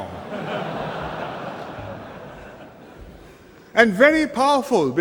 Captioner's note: laughter